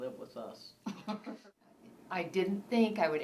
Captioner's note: laughs